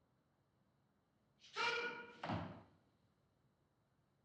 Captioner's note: man shouts in turkish